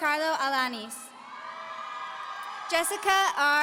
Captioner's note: audience cheering